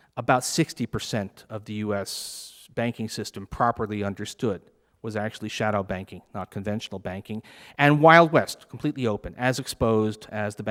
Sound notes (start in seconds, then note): none